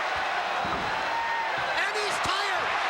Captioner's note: crowd cheering